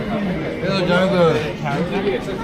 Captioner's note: people chattering